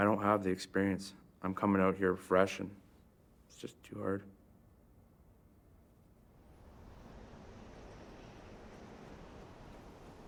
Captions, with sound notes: I don't have the experience. I'm comin' out here fresh and it's just too hard. [wind gusts]